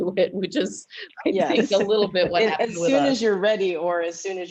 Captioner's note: laughter